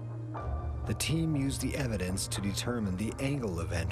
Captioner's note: voiceover